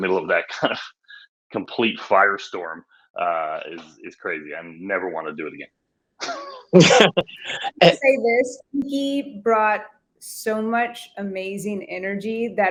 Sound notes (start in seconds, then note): 6.2 laughing; 6.2 laughs